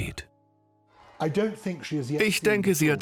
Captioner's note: voiceover